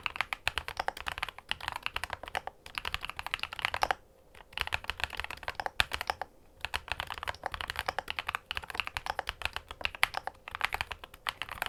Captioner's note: keystroke sound